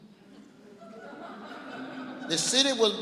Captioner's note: laughing